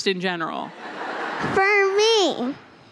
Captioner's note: laughter